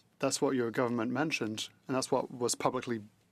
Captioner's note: speaking French